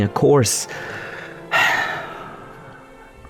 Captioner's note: siiigh